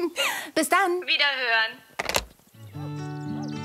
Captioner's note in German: Telefon wird aufgelegt